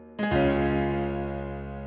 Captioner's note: none